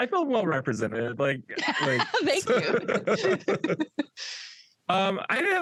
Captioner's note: laughs